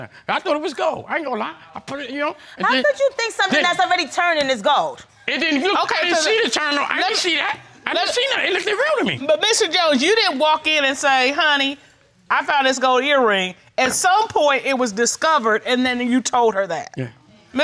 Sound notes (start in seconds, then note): 5.3 stammering